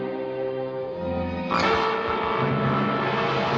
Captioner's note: buzzing